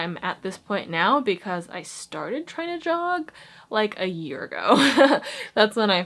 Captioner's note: laughs